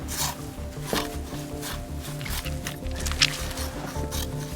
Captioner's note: gentle music continues; scissors sniping